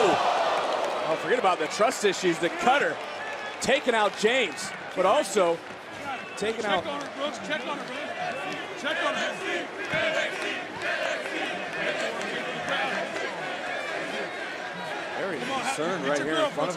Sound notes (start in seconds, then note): 11.6 crowd chants "nxt"